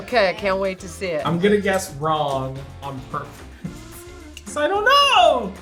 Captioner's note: laughs